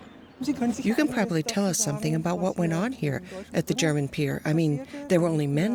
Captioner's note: woman in German